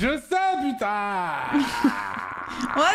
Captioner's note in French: rire